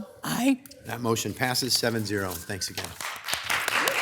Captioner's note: people applauding